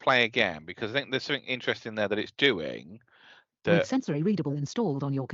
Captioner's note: computer speaks